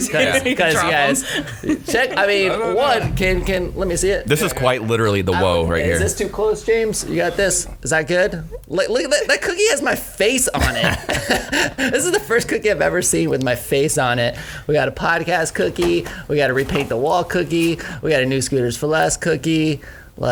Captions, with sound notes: - 'Cuz, you guys, check, I mean, - No, no, no. - one, can, let me see it? - This is quite literally the whoa right here. - Is this too close, James? You got this? Is that good? Look at that, that cookie has my face on it. (laughing) This is the first cookie I've ever seen with my face on it. We got a Podcast cookie, we got a repaint the wall cookie, we got a New Scooters 4 Less cookie.